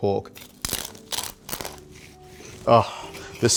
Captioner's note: crackling sound